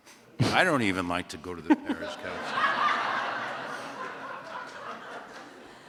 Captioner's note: laughter